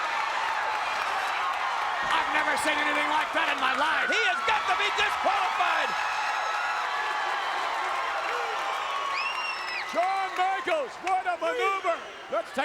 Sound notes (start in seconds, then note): 0.2 audience cheering; 6.1 audience cheering and clapping